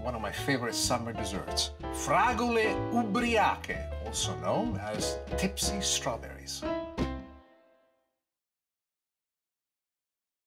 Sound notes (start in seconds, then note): 2.0 foreign language